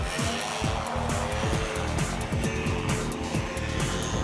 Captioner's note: centrifuge buzzing